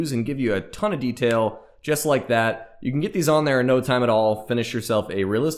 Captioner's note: snap